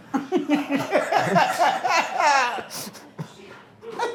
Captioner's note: all laughing